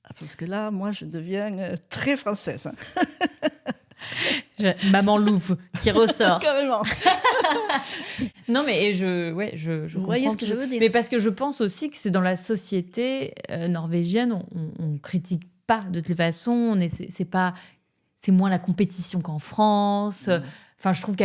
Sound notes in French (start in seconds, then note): 2.8 rires